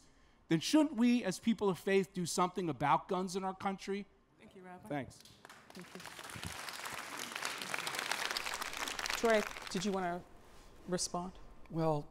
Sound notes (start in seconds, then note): 5.2 applause